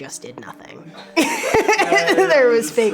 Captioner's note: laughing